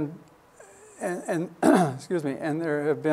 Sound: clears throat

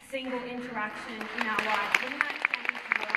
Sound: applause

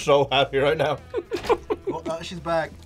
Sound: laughs

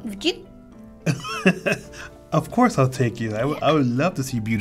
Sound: chuckles

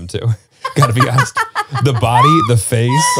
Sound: laughs

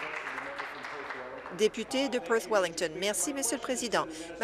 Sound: applause

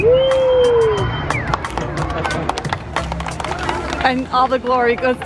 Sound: whistling and applauding

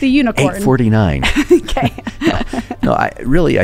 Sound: laughing

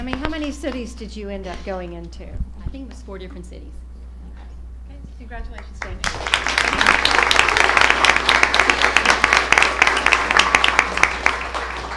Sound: applause

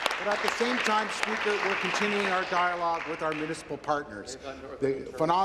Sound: applause

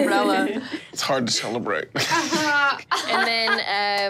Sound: laughs; laughing

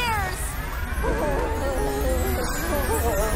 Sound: roars, screams

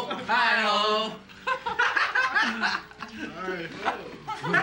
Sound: guys laughing

